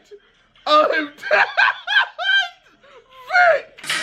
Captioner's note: laughs loudly